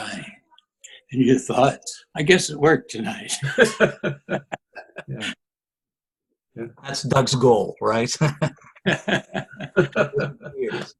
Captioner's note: laughter